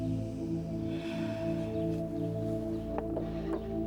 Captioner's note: sighs